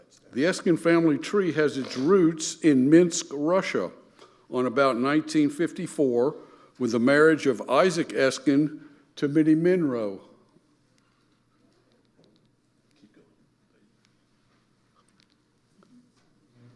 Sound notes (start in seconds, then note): 10.7 buttons clicking